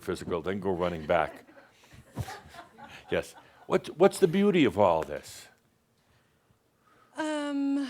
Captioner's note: a few chuckles